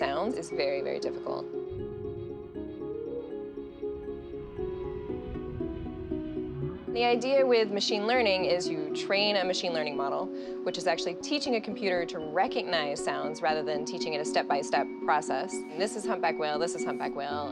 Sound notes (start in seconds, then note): 1.6 whale cries softly; 4.0 whale groans